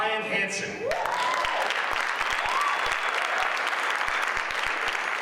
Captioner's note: audience applauds